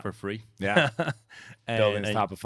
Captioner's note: chuckles